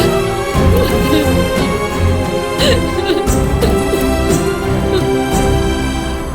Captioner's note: crying